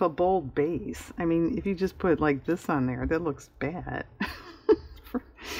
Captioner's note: laughs